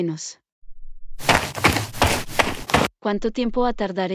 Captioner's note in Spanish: FX - Footsteps - On Multiple Dirt - Run